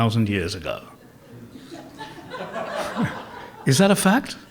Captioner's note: laughter